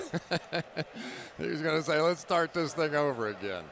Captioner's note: laughs